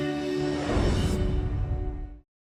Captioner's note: instrumental music; air swooshing